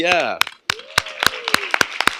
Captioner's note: applause